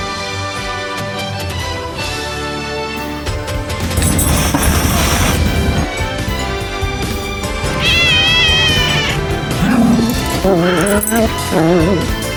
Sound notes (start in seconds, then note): 3.8 Caprice hisses; 7.6 Caprice meows; 7.6 growls